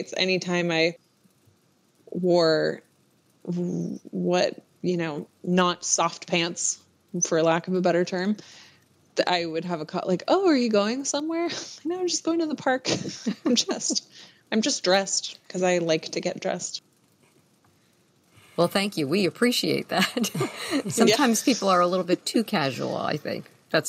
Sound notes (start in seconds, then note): 12.8 laughter; 20.0 laughs